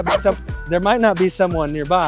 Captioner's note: bark